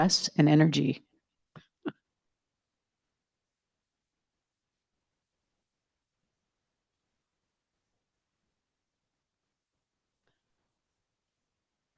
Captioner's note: extended silence